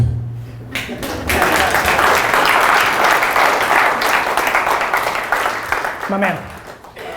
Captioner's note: applause